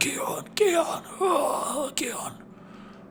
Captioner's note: grunts